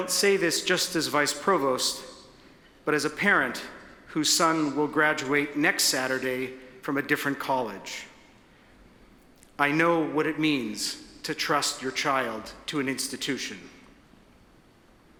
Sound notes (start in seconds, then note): none